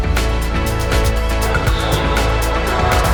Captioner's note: engine revving